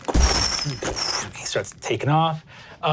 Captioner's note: imitates thunderous steps